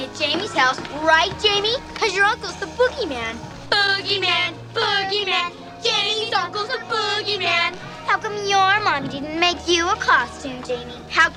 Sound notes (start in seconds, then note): 4.4 chanting in unison